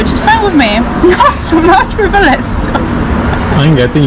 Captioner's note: laughing